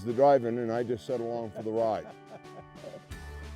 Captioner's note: laughter